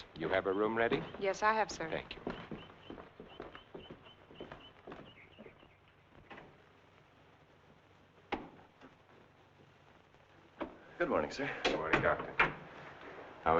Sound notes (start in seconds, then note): 2.9 birds chirping; 2.9 footsteps thumping; 6.9 door rattling; 6.9 door thumping